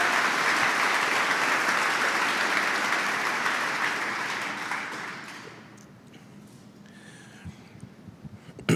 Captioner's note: Applause; 掌声